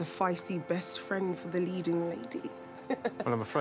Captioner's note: laughs